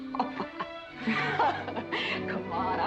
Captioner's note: both laughing